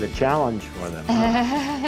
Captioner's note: laughing